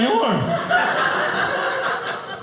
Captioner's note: audience laughing